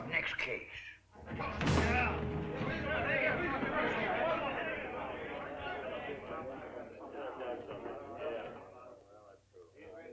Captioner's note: excited chatter